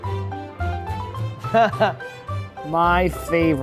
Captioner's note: laughs